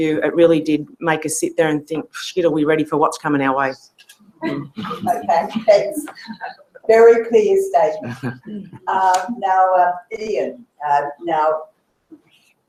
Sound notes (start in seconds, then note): 4.4 laugh